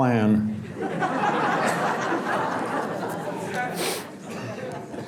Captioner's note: audience laughs